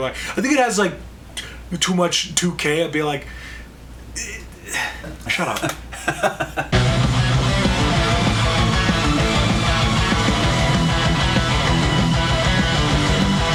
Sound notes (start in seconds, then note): 5.8 laughs